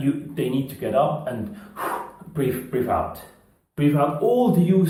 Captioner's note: exhaling